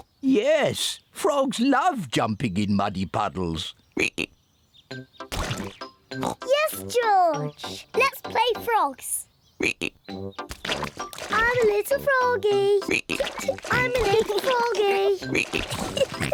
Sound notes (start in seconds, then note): 3.9 ribbit; 10.4 ribbit